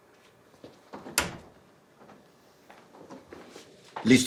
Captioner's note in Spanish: Sonido al abrirse la puerta